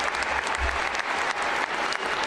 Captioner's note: applause